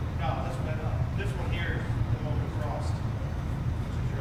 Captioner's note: distant chattering